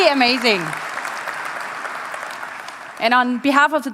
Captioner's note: applause